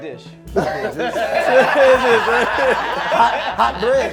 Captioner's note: laughing